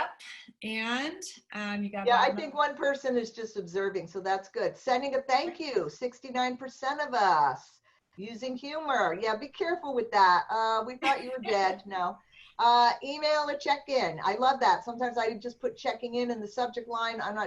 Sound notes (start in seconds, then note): 11.0 laughter